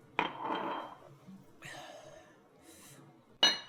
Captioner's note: glass clanks